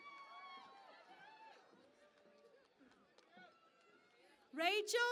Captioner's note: cheering and Applause